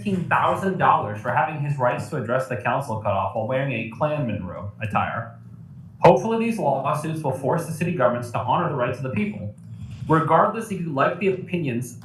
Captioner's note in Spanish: audio distorsionado